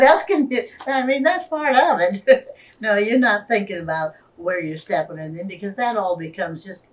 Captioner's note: laughs